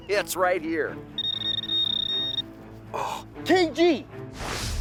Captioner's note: beeping; dramatic music